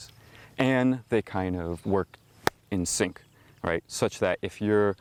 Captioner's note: claps hands